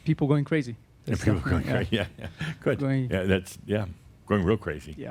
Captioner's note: Adamus chuckles